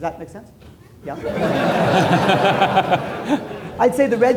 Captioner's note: laughter